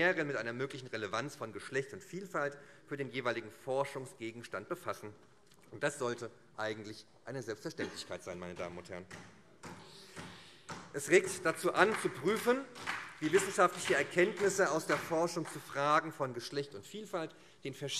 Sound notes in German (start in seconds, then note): 9.7 Vereinzelter Beifall SPD